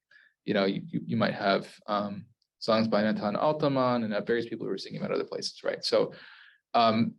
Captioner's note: Hebrew